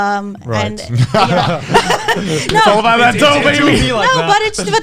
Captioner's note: all laughing